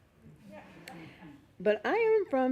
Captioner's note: laughing